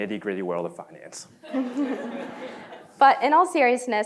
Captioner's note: laughter